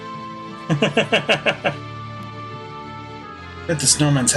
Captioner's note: laughs